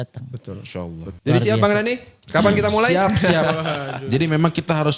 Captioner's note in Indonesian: tertawa